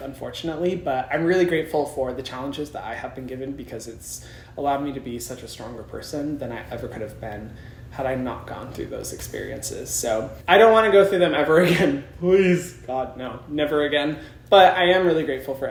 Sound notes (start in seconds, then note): none